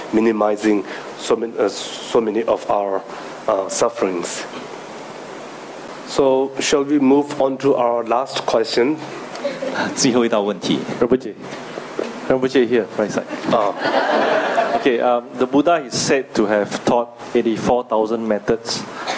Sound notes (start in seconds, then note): 13.2 audience laughing